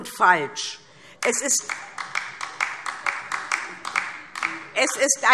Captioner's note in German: Beifall DIE LINKE